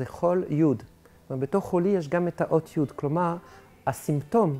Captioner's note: Hebrew